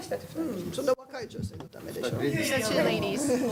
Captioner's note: speaking japanese